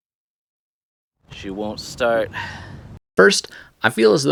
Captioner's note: sigh